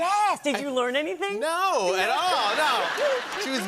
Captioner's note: laughter